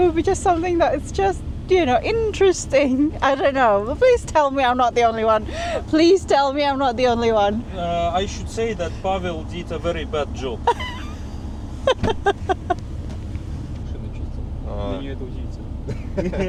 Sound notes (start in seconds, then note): 11.8 laughter